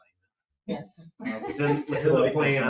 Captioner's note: laughs